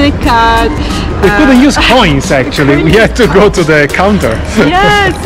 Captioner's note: laughing